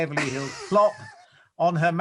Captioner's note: laughs